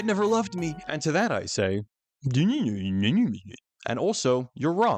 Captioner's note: kissless Virgin Noises